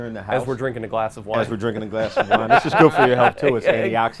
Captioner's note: everyone laughs